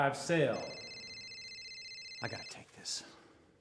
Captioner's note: phone ringing